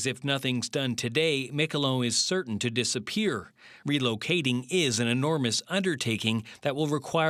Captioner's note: speaking French